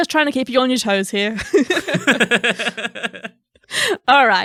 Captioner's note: chuckling truthfully